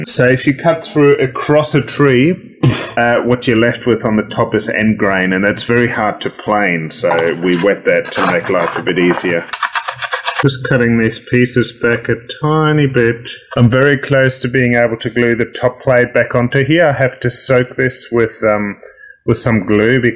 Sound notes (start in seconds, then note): 9.9 plane scratches